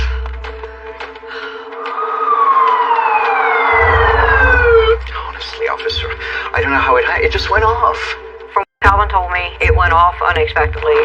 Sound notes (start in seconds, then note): 2.4 sirs wawailing